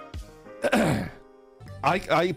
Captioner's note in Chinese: 清喉嚨